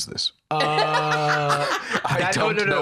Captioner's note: laughs